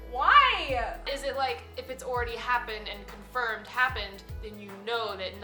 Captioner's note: none